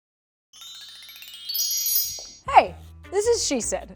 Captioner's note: tinkling chime